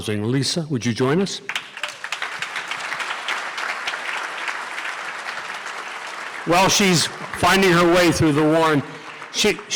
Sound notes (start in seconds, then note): 1.5 audience applause